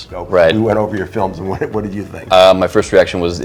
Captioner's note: chuckles